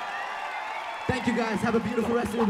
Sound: applause

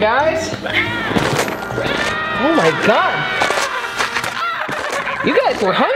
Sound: creepy eating sound

